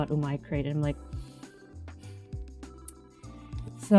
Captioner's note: sigh